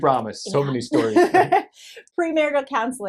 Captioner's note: laughs